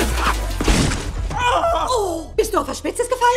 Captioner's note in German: schreien